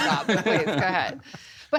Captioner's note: laughter